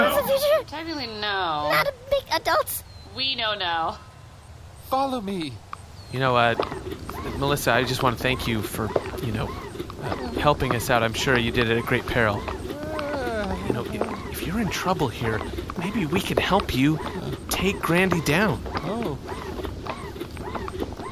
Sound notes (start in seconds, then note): 12.6 groans nervously